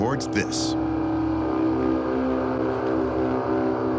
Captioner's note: horn-like sound